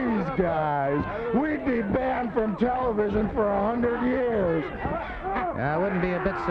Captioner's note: laughs